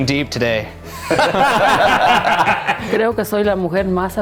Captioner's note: laughing loudly; speaks in Spanish